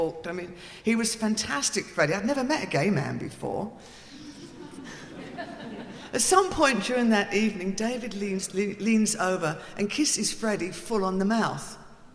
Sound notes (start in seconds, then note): 4.2 audience laughing